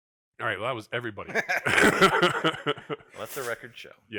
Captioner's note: laughs